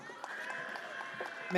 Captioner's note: audience cheers